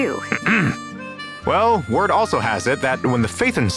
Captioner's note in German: räusper